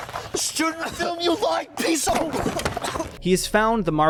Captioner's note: Jay coughs